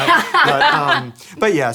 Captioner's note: laughter